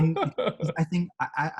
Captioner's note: laughs